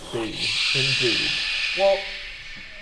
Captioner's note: stressed shh noises